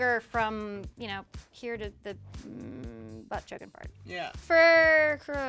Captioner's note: groans